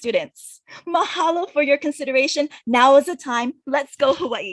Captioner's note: speaks in a foreign language